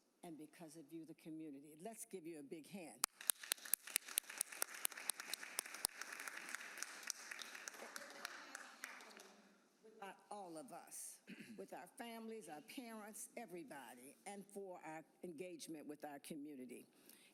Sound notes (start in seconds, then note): 5.2 applause